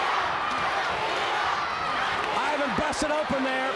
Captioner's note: crowd cheering